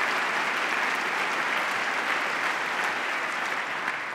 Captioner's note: applause